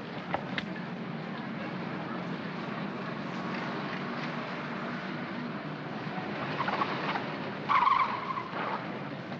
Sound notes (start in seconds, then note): 0.0 city street sounds; 6.3 tires chirp